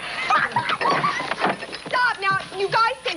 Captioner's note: laughing